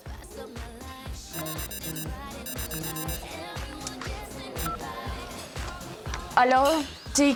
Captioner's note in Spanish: Suena el celular